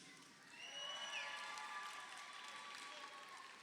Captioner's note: crowd cheering